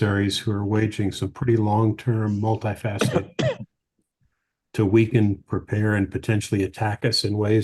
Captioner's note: off mic